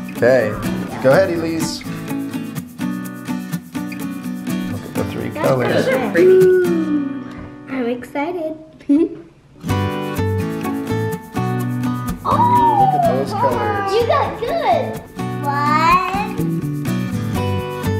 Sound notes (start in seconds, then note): 2.0 upbeat music; 9.2 laughs; 10.0 upbeat music